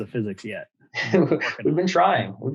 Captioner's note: chuckles